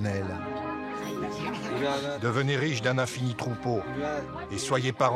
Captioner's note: foreign spoken audio